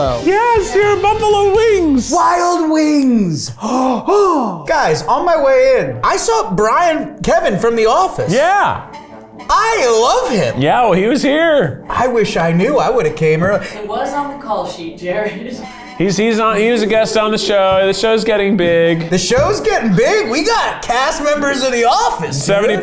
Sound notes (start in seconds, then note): 3.5 gasps